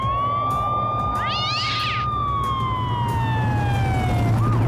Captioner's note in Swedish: katten skriker